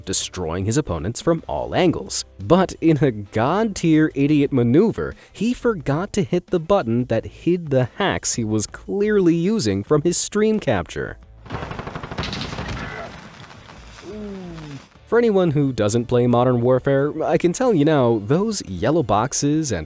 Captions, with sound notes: destroying his opponents from all angles, but in a god-tier idiot maneuver, he forgot to hit the button that hid the hacks he was clearly using from his stream capture. (gunfire rattles) For anyone who doesn't play "Modern Warfare", I can tell you now, those yellow boxes